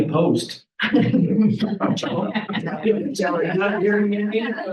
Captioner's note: people chattering and laughing